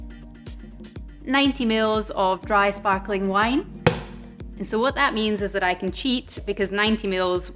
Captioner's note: pop